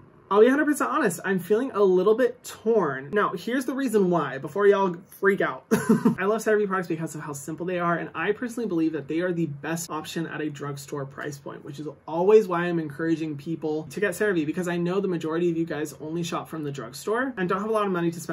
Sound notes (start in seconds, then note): 5.7 laughs